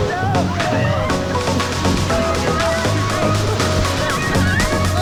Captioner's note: group screams